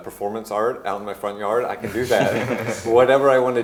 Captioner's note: laughing